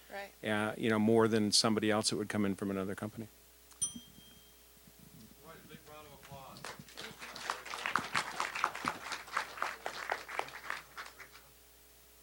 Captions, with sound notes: >> RIGHT. >> YOU KNOW, MORE THAN SOMEBODY ELSE THAT WOULD COME IN FROM ANOTHER COMPANY. (bell dinging) >> GIVE A BIG ROUND OF APPLAUSE. (applause)